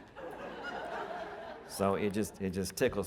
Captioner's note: audience laughing